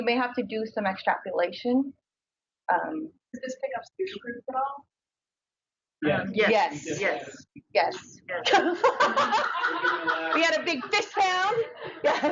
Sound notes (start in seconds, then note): 3.7 woman speaks through warped and choppy audio; 8.4 audience laughs